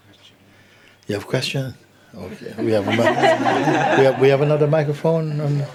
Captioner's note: laughter